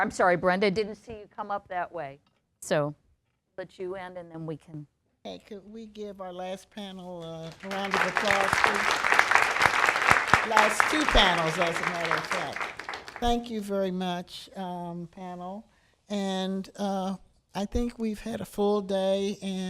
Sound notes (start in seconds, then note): 7.2 applause